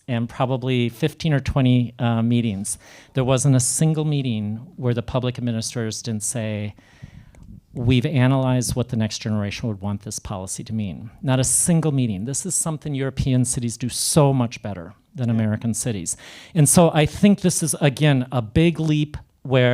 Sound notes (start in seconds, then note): none